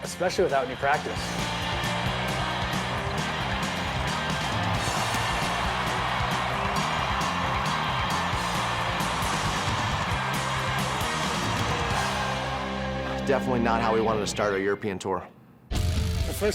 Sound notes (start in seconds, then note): 2.8 rock music; 5.3 applause